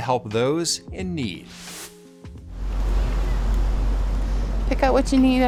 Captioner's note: air whooshing